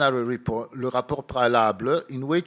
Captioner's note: speaking in foreign language